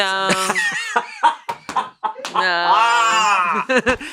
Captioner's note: laughs